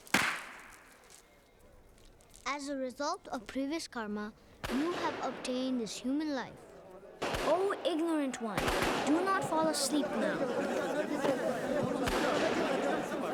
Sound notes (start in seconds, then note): 4.6 distant Gunshot; 4.6 gunshots Continue; 9.4 monks Chattering Excitedly